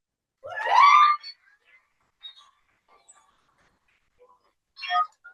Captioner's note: cheering